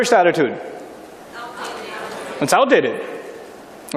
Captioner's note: people shouting out "it's outdated"